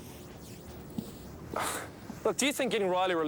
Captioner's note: Dave sighs